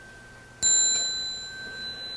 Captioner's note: sound of small bell